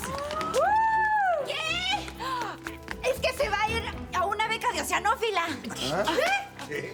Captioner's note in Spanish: gritos y exclamaciones